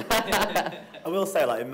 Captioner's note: all laughing